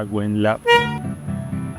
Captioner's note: horn honks